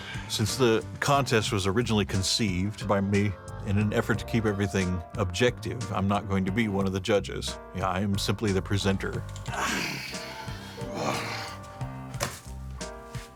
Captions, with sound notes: Since the contest was originally conceived by me in an effort to keep everything objective I'm not going to be one of the judges. You know I'm simply the presenter. (grunting)